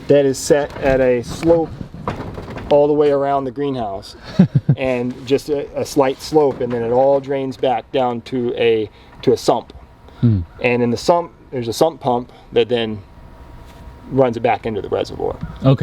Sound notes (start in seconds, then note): 4.2 interviewer laughs